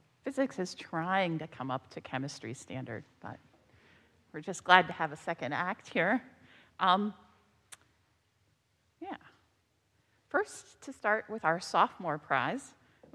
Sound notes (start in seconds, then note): none